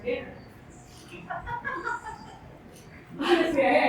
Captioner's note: laughter